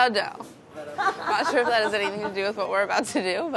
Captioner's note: laughing